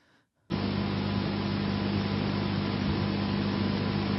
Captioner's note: breathing sound